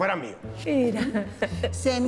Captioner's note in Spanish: Ríe